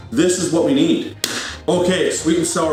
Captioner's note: clap